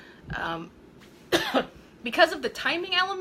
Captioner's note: coughing